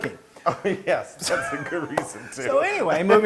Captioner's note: laugh